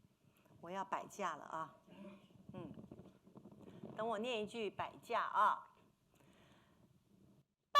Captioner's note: speaking Mandarin